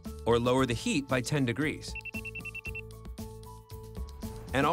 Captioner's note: beeping